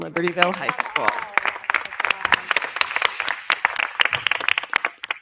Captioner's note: crowd clapping